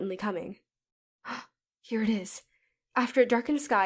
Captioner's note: gasp